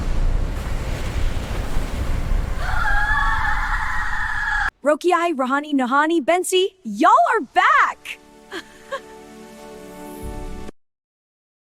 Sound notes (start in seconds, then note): 2.5 screaming; 8.5 giggle